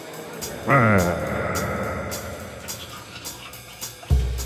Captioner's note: Mikey growls